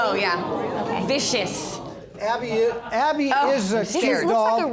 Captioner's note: sarcastically